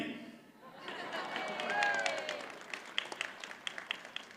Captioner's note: audience applauds